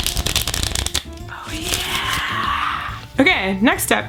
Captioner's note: whispering